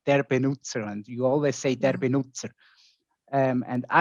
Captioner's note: speaking in foreign language